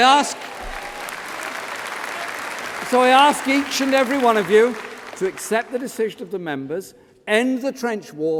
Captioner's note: applause